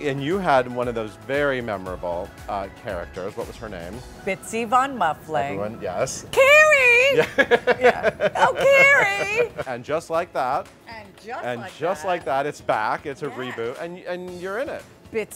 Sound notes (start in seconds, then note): 7.1 giggles